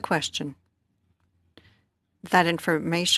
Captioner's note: speaking French